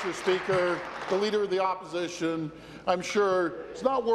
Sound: applause

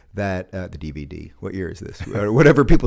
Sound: chuckles

